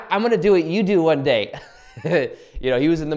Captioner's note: laughs